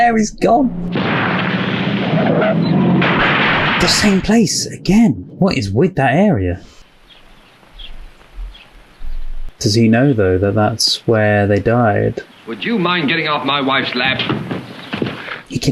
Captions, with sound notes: (tire pops) - Would you mind getting off my wife's lap?